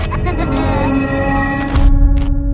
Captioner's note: giggling; eerie music